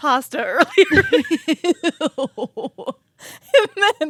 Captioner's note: both laughing